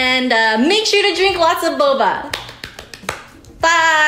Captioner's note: clapping